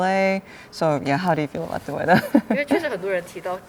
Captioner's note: laughs